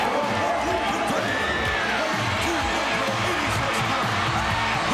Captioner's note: audience cheering